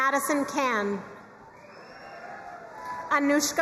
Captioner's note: crowd cheering and applauding